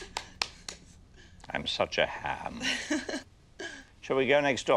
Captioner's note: Jane chuckles